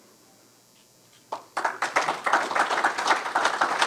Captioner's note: audience clapping